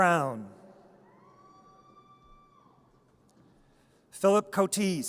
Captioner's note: audience cheers